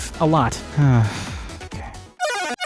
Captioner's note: sigh